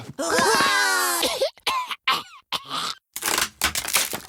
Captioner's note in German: Keuchendes Husten